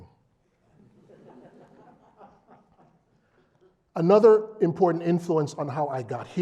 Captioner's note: laugh